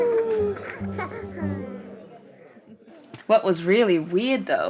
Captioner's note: baby laughs